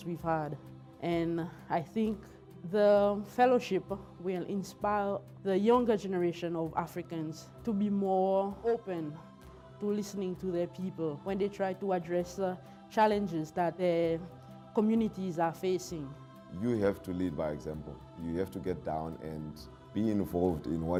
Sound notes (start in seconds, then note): none